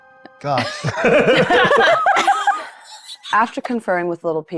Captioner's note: players laughing